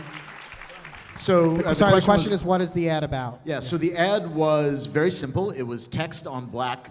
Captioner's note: applause